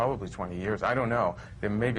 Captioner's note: none